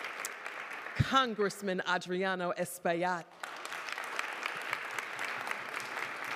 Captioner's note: applause